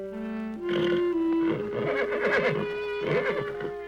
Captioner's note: horse neighing